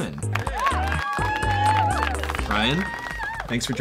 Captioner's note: clapping and cheering